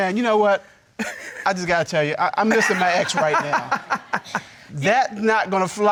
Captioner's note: laughing